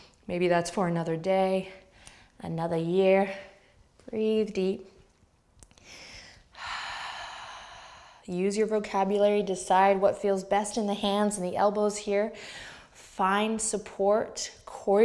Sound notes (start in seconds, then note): 5.8 exhaling